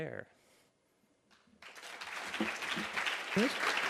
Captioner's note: audience applauds